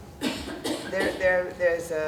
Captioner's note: person coughing